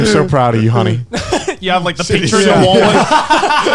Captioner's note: laughs